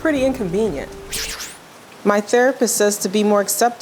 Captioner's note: inner voice with the sound of rain